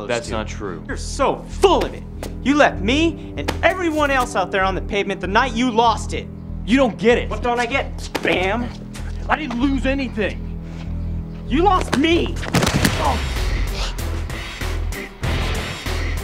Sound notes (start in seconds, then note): 11.8 body thudding; 12.5 Bam moaning; 13.3 upbeat music